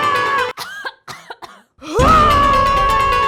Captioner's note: coughs